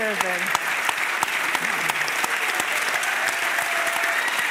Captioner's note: audience applauding